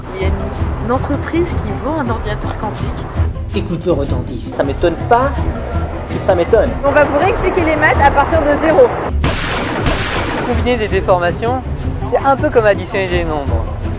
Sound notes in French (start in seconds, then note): 9.1 Coups de feu